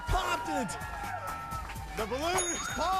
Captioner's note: cheers